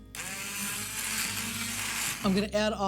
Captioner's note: sound of blender